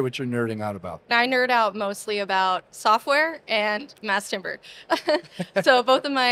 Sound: laughs

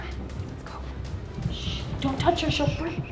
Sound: whispering

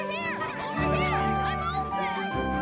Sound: playful chatter

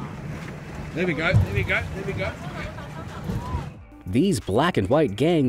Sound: speaking in foreign language

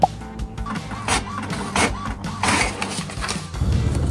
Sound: printer humming

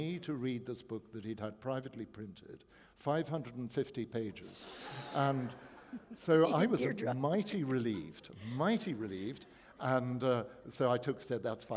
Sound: chuckle

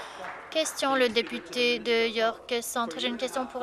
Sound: applause

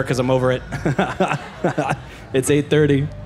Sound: creepy laugh

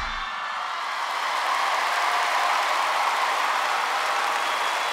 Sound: crowd clapping

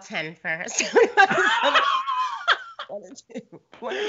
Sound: both laugh

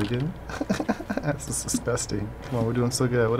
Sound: giggles

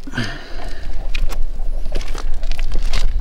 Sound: grunts

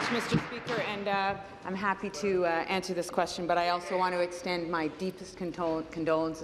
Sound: applause

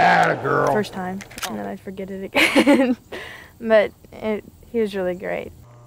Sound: laughs

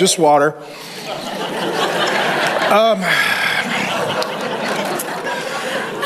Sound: congregation laughs

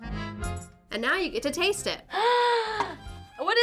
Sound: gasps

